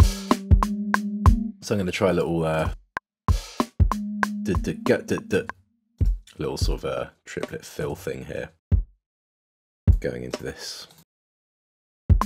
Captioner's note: beatboxes